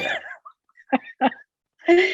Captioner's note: laughs